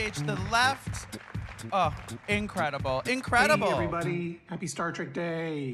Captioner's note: applause